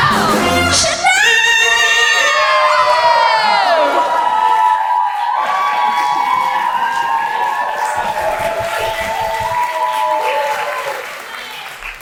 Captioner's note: audience cheers